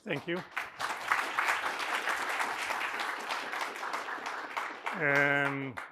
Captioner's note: applause